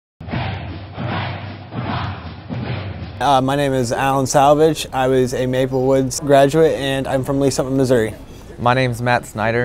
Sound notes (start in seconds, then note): 0.2 crowd cheering